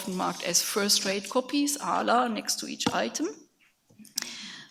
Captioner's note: speaks in a foreign language